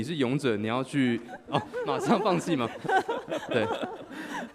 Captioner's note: laughs